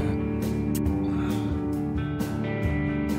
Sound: sigh

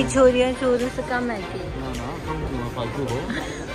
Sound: laughter

